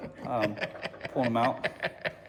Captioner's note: laughing